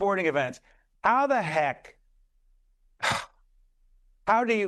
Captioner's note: sigh